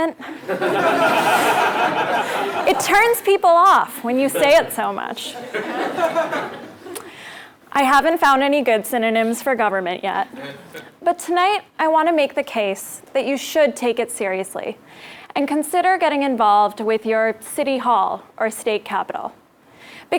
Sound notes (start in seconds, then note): 0.2 laugh; 5.2 laugh